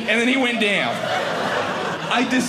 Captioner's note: audience laughing